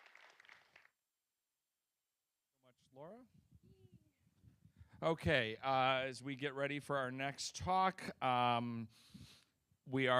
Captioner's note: applause